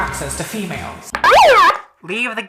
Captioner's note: alarm